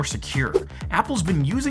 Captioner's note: air whooshing